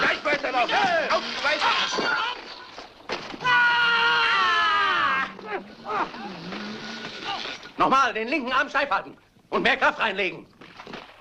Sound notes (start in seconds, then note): 3.5 man yells; 5.1 grunting